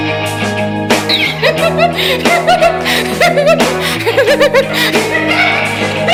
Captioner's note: hysterically laughing